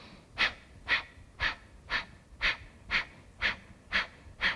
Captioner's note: repeated sharp exhalations